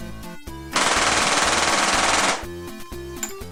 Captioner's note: gunshots